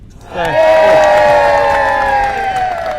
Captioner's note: cheering